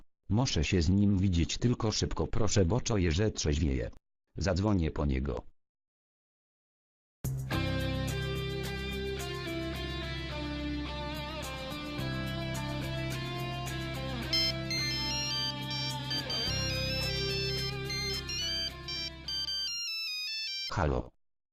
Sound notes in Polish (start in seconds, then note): 14.3 Dzwoni Nokia